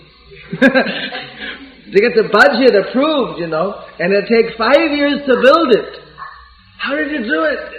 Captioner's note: laughter